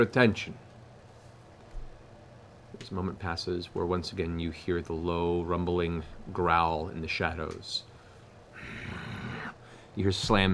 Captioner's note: growls